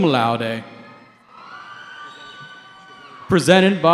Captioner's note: cheering